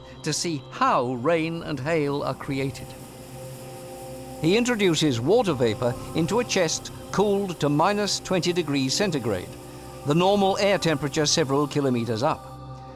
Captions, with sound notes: to see how rain and hail are created. [strong air blasts] He introduces water vapor into a chest cooled to negative four degrees Fahrenheit, the normal air temperature several miles up.